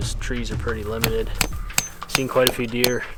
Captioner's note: hammering